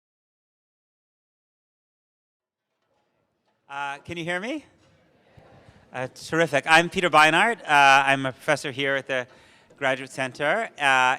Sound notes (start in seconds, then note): 5.1 audience affirms